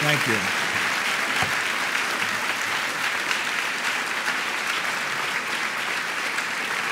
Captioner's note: audience applauding